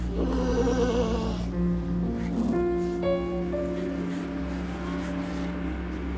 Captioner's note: sea lion groaning; slow dramatic music